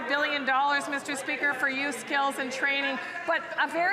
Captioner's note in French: voix de l'interprète